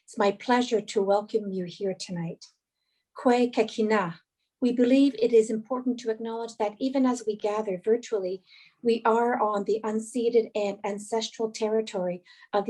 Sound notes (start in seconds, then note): 3.3 speaking Indigenous language